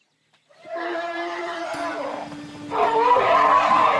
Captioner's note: trumpeting